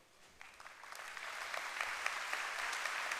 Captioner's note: applause